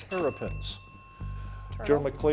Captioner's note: bell ringing